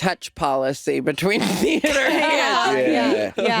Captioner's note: chuckling